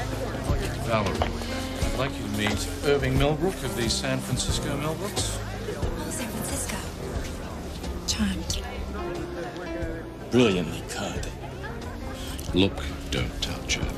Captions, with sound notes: HEY. [audience chattering excitedly] HEY, UH, YEAH, THANK YOU. I'M SORRY, JAY. YEAH, IT'S OK. UH. TO THINK I ALMOST BUMPED YOU FOR TONY RANDALL. YE.